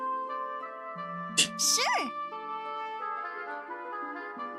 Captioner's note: laughs softly